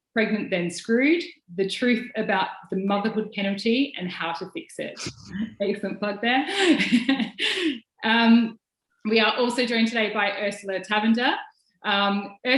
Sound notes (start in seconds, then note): 5.7 speaking in foreign language; 6.4 laughs